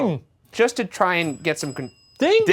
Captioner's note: bell dinging